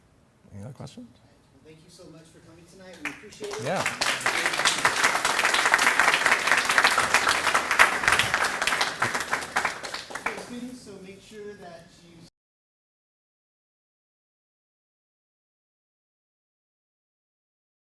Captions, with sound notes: ANY OTHER QUESTIONS? >> THANK YOU SO MUCH FOR COMING TONIGHT. WE APPRECIATE IT. >> YEAH. [ APPLAUSE ] >> STUDENTS, SO MAKE SURE THAT YOU --